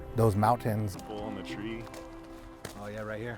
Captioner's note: farmers chatting